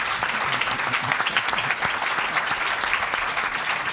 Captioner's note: applause